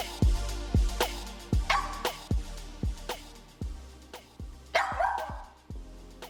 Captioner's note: dog Barks